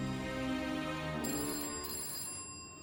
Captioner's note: ringing